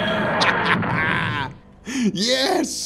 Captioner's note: laughter